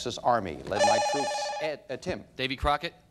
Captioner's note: bell rings